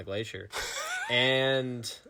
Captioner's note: laughing